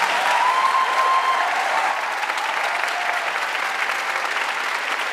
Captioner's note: audience cheering and applauding